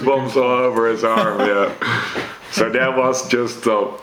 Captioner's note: laughs